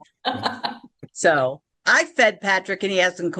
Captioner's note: laughing